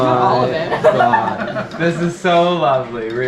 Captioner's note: laughing